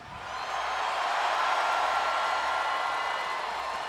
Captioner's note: crowd cheering